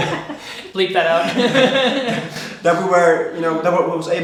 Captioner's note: laughing